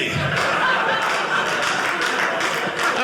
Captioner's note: audience laughing